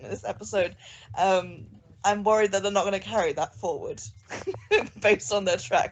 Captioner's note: laughs